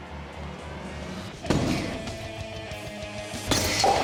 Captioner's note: thudding; crash